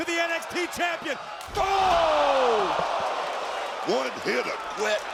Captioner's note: audience cheering